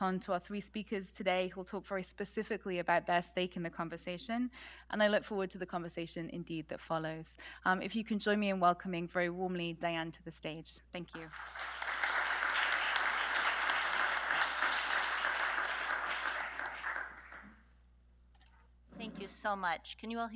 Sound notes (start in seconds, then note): 11.1 applause